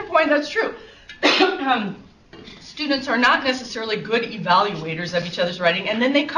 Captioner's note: coughs